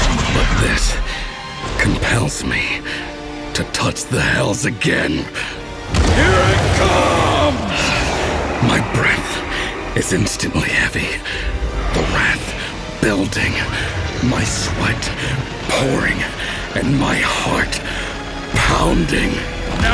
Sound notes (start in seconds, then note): 6.0 retumbar